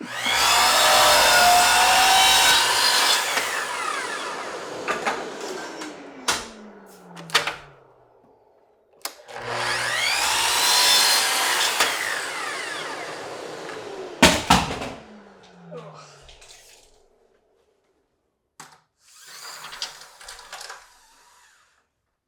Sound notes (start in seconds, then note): 0.0 saw whirring; 4.8 wood thudding; 6.0 saw clicking and whirring; 14.1 tape measure thudding; 15.7 groaning; 19.1 tape measure whirring